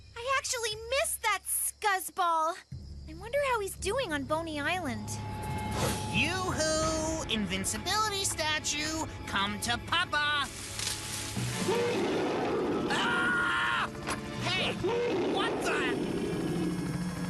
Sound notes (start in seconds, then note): 11.5 bear Growling; 12.8 Scott Screaming; 14.4 growling